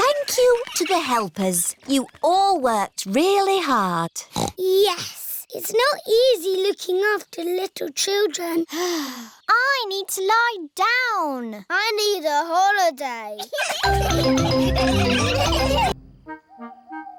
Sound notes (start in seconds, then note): 9.1 sighs; 13.4 all laughing